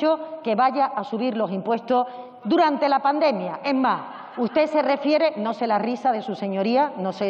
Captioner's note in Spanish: Risas